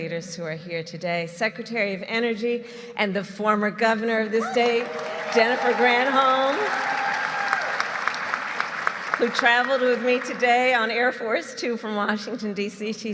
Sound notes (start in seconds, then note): 7.9 applause